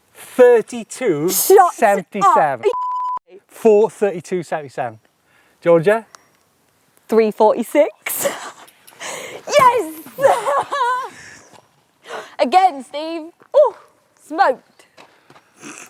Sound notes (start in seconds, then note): 9.8 laughs